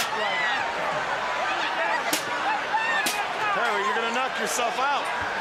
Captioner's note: crowd chatter